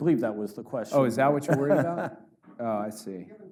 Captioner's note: laughs